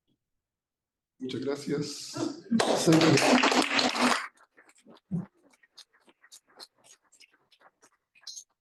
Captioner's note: appluse